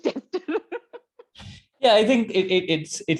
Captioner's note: chuckles